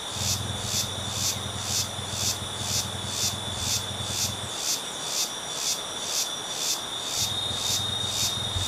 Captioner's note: birds noise